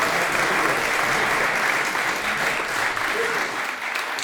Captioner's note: clapping